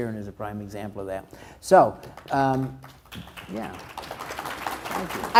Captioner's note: crowd applauds